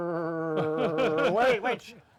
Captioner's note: laughs